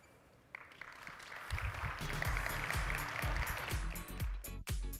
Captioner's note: audience applauding